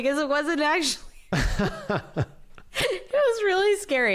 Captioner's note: laughter